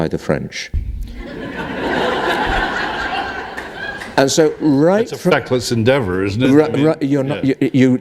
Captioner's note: laughter